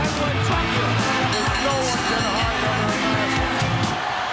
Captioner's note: bell rings